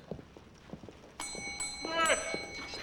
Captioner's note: rings bell